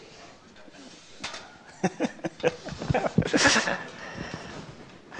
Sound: laughs

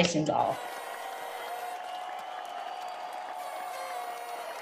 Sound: audience applauding

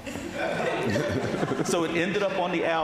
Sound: audience laughing

